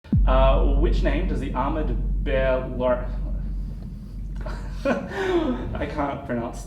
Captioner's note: laughs